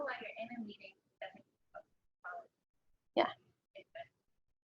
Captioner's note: audio drops